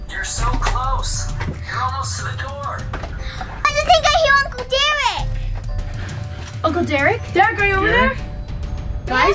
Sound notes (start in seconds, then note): 3.1 gasps